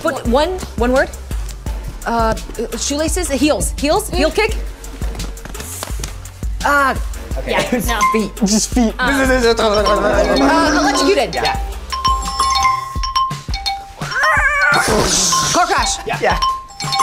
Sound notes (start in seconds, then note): 10.0 actors grunting; 12.5 app chimes; 14.0 mimics tires squealing